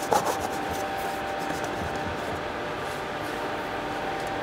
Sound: dull machine whirring

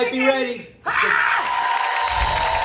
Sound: screams; crowd applauds

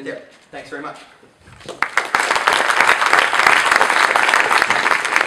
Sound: people applauding

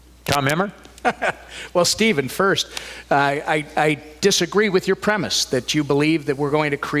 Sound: laughs

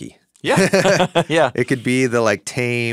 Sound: chuckling

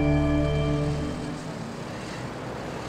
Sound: A vehicle crossing

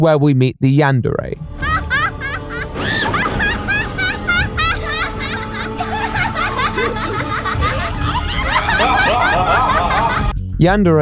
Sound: evil laughing

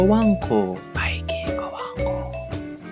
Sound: whispers

